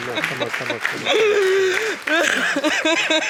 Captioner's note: sobbing continues